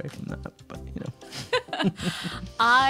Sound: chuckling

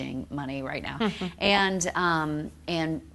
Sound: chuckling

